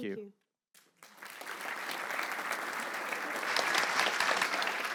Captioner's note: applause